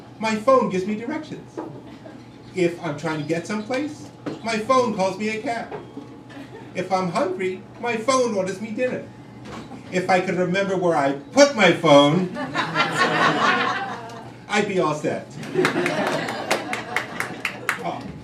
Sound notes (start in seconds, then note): 12.2 crowd laughing